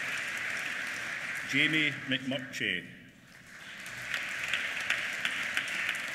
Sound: applause

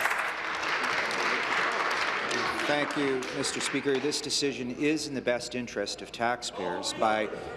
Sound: applause

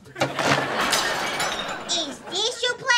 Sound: laughing

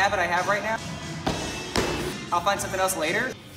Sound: feet stomping

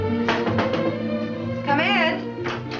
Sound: soft knocking on door

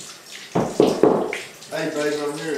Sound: knocking at door

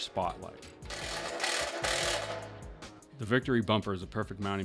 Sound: driller grinding

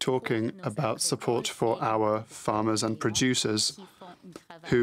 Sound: speaking french

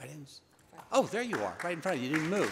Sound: attendees applauding

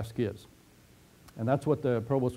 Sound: pause

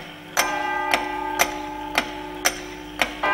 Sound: ticking and chiming

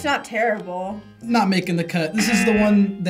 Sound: buzzer rings

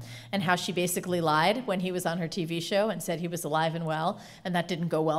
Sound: none

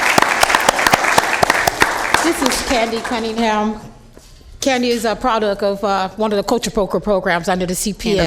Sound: applause

